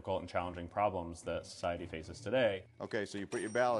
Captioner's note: bell dinging